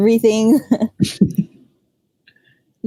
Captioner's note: both chuckling